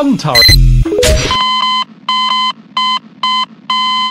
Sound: Half Life 2 / Garry's Mod death sound

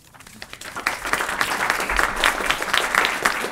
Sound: applause

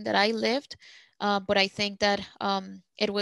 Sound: speaking Spanish

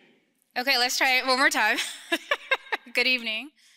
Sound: laughs

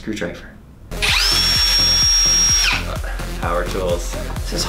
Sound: drilling

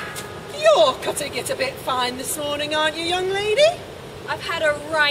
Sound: bell stops tolling

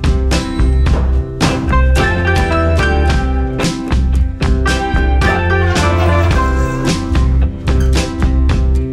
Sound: sliding doors

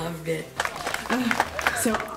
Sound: applause

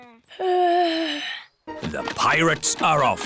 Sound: yawns

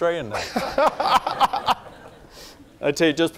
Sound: laughing

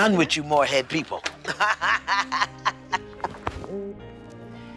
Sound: laughs

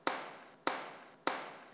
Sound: dat slapping; slap

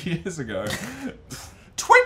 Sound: laughing

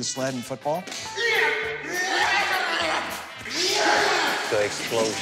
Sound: wrestlers grunting

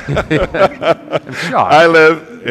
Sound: laughter

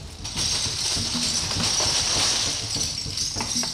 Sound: caps rattling

